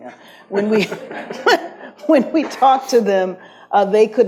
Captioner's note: audience laughs